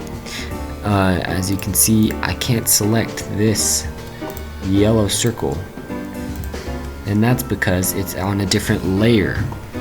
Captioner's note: click, click, click